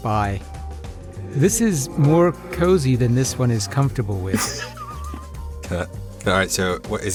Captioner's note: chuckles